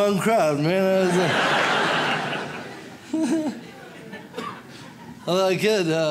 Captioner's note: audience laughs